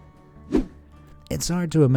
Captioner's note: air whooshing